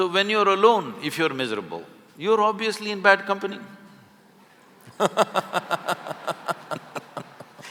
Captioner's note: laughter